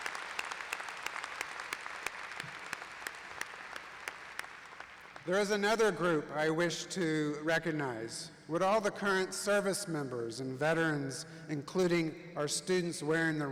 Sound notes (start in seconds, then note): 0.0 applause